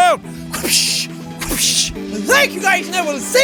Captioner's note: wahpoosh